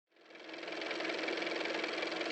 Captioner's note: car motor